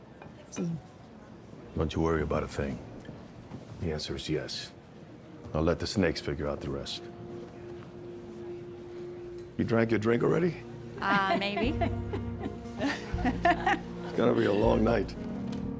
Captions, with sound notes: Don't you worry about a thing. The answer is yes. I'll let the snakes figure out the rest. You drank your drink already? Maybe. [CHUCKLES] It's going to be a long night.